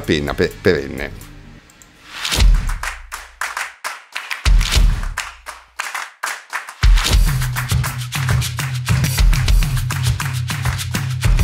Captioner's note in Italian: Applauso